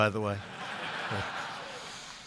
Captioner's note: laughter